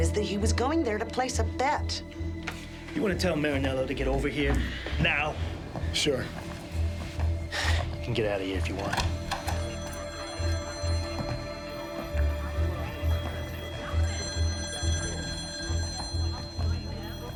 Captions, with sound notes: is that he was going there to place a bet. - You wanna tell Marinello to get over here now? - Sure. - You can get out of here if you want. (phones ringing) (people chattering)